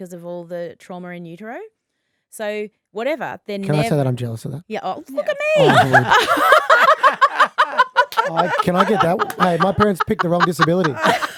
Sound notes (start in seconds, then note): 5.2 laughing